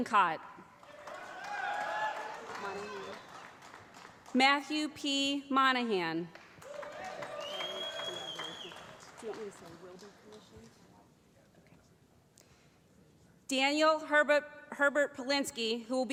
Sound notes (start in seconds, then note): 0.9 audience shouting; 7.2 whistling